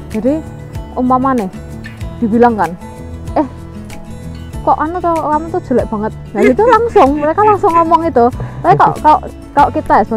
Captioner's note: chuckles